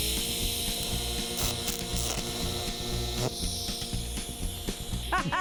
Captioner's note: metal grinding; metal sparking